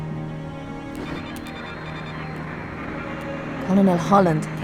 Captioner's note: console beeping, static